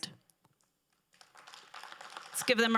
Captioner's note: crowd applauding